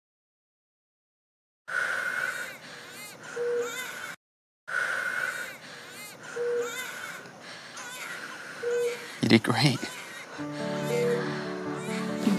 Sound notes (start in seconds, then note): 1.7 Lilo and stitch, brother bear, barbie Mattel doll crying; 9.8 Lilo and stitch, brother bear, barbie Mattel doll crying continues